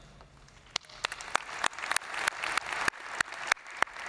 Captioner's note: all applauding